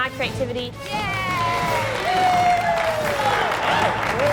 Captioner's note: cheers and applause